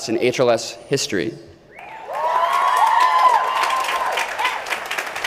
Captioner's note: crowd cheering